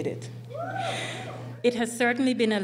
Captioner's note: cheering